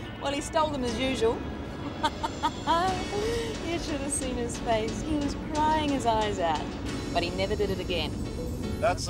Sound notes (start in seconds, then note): 1.9 laughing